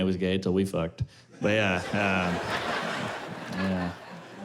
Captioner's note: laughter